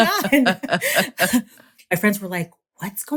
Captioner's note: laughter